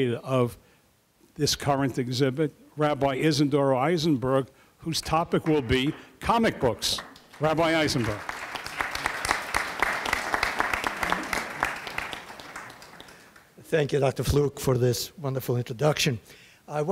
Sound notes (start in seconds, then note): 8.6 audience applauding